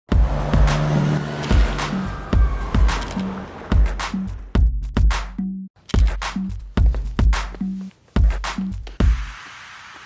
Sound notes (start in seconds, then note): 0.1 upbeat music; 3.2 police sirens